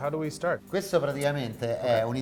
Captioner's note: speaks Italian